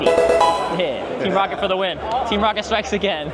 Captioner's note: bell dinging